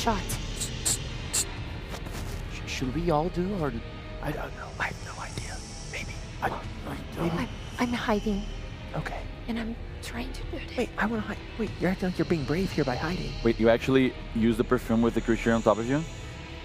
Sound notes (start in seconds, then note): 0.2 spraying perfume